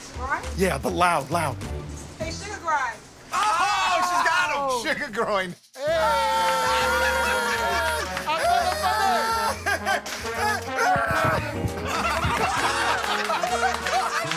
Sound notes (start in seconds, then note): 6.3 laughter and applause